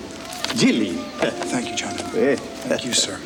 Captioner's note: chuckles